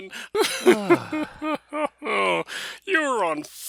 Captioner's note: both laughing